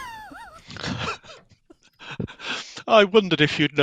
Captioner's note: laughs